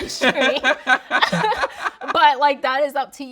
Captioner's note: laughing